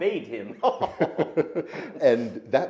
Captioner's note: men laughing